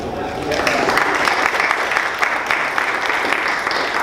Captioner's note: applause